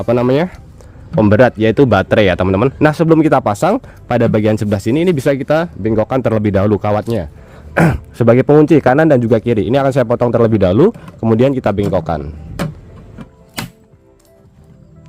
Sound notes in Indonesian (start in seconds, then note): 7.7 berdehem